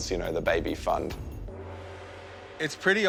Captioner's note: gong reverberates